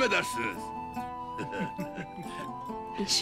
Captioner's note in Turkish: Gülme sesleri